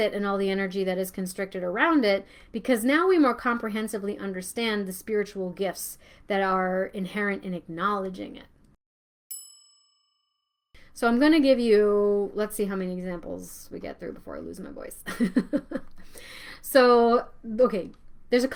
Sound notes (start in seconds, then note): 9.3 bell chiming